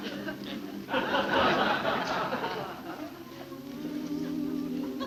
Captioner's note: people laughing